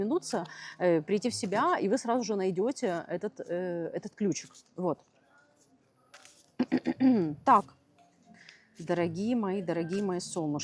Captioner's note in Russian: откашливается